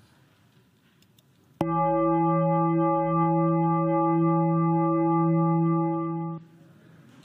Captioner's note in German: Gong